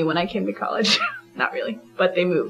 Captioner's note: laughs